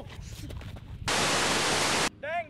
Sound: static

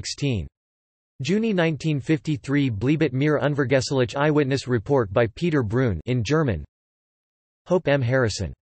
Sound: in German

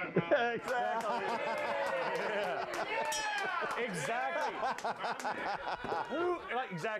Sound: applause; bell rings

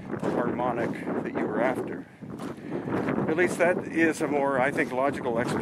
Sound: wind whistling

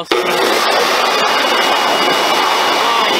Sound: loud leaf blower

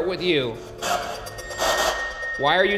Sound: tense music; spirit box buzzing

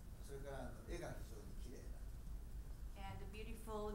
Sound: speaking in foreign language

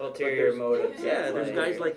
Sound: laughs

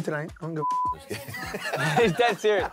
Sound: laughing

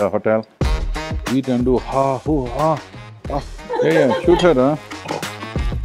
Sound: laughs

